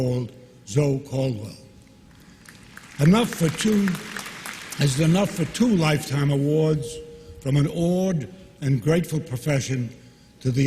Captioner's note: applause